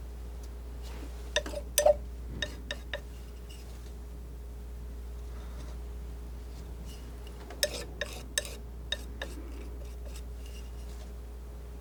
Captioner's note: scratching